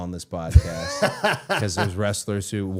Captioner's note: Matt laughing